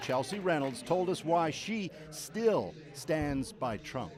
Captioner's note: cheers and Applause